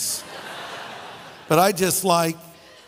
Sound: audience laughing

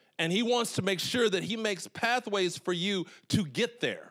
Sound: none

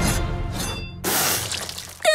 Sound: spits

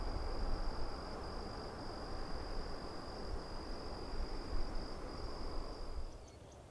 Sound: nocturnal insect buzzing

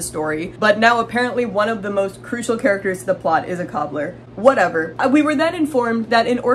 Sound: exasperated

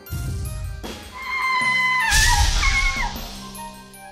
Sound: screams

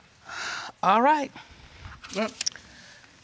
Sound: sighs

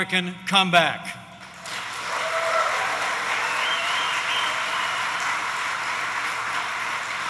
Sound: applause

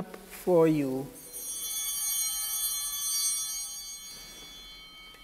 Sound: altar bell ringing

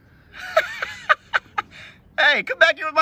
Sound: laughs

